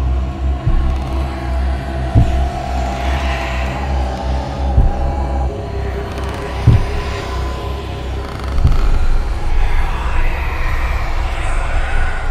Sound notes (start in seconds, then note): 0.6 footsteps slowly approach, the floor creaking; 4.1 creepy breathes and whispers; 8.6 the footsteps are right next to her